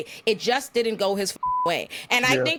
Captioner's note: beep